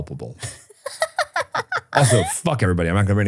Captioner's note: person laughing